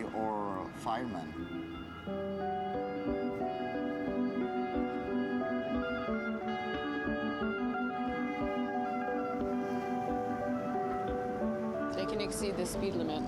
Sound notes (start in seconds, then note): 2.5 sirens